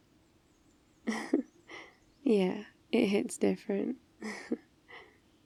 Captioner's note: laughs